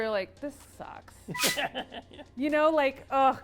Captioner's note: laughs